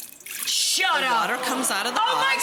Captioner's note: audience exclaiming